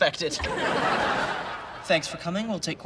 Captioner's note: audience laughs